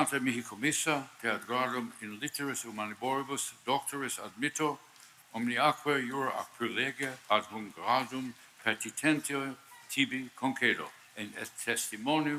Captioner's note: speaking Latin